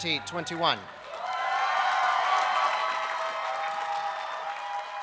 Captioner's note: people cheering